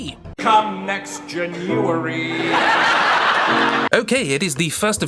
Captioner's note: laughter